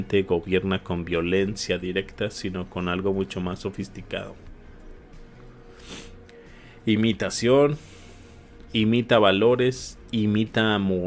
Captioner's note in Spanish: resoplido